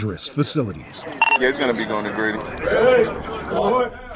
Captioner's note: two-way radio & ambient noise